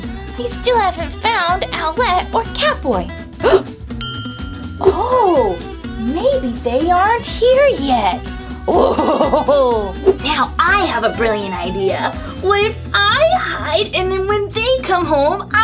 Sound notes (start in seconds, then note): 4.0 ding; 8.8 Gekko Cackles